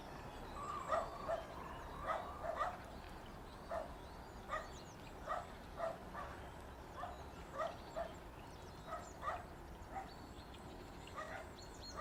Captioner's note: barking; geese cries